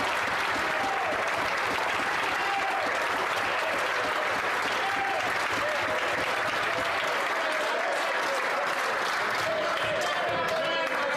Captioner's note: some Applause